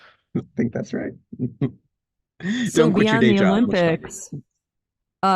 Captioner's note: chuckles